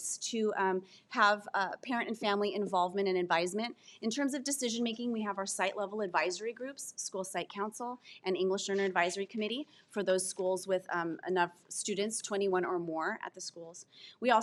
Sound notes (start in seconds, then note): none